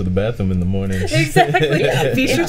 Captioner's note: group laughing